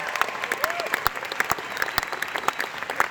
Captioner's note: audience Applauds